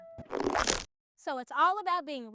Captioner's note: screen twangs